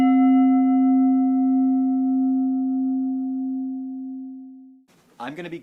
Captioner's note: bell dings